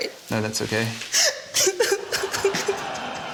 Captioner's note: cries